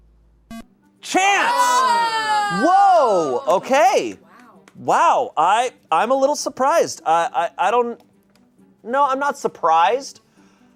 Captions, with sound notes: (electronic beep) Chanse! Whoa, okay. Wow, I'm a little surprised. No, I'm not surprised,